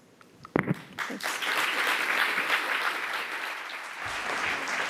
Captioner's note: applause